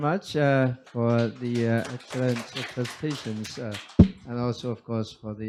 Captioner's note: audience claps